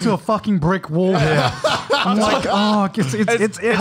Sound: laughs

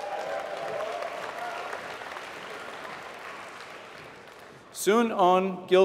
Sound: applause

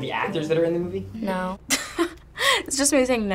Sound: chuckling

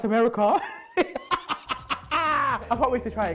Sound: laughing

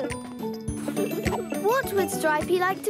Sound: laughing

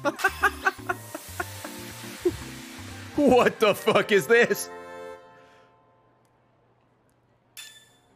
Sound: laughs

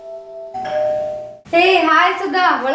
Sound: door bell rings

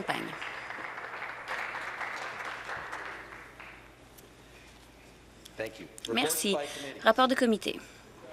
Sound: some Applause

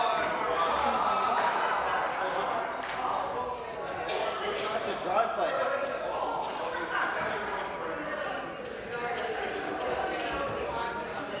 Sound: conversation din

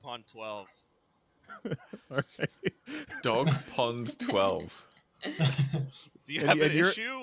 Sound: laughter

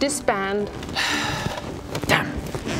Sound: sigh

